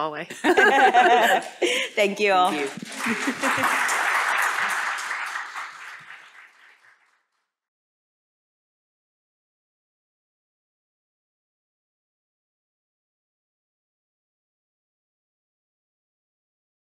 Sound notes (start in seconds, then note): 0.3 laughter; 10.4 applause